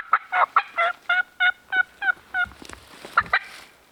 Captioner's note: turkey calling